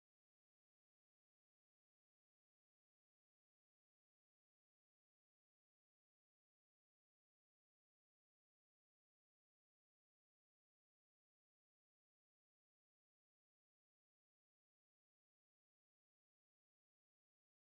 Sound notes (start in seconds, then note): none